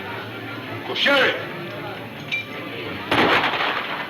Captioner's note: gunfire pops